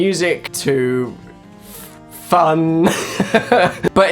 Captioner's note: hesitates; laughing